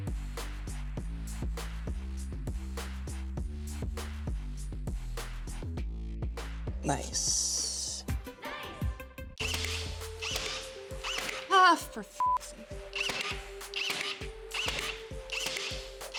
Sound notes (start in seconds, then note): 1.0 upbeat music; 9.4 tool whirring; 12.9 tool whirring